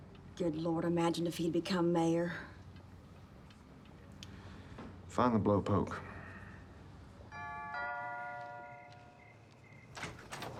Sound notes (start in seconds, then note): 7.3 doorbell rings